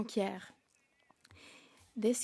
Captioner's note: speaking French